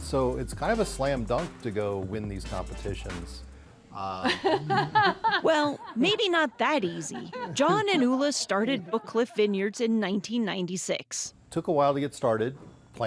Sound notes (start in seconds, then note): 4.0 laughs